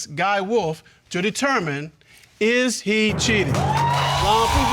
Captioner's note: audience cheering